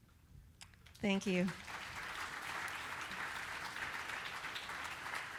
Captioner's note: audience applauding